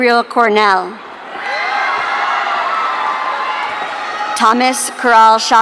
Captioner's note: audience cheering